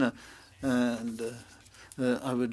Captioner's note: speaking French